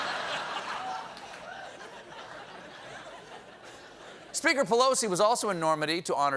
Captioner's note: laughter